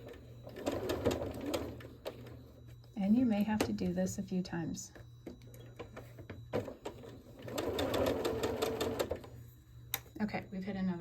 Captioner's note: sewing